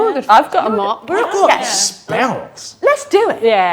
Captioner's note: overlapping chattering